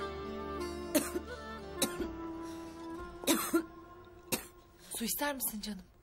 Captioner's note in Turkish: öksürük sesi̇